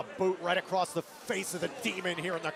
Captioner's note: crowd chatter